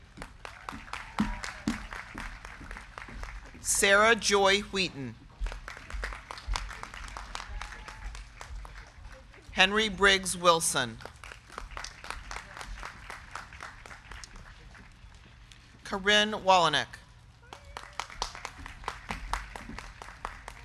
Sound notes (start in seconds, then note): 0.0 crowd cheering; 0.2 crowd clapping; 5.5 crowd cheering; 5.6 crowd clapping; 11.3 crowd clapping; 17.3 crowd clapping